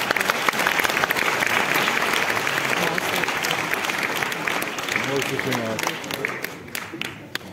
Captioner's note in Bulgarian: аплодисменти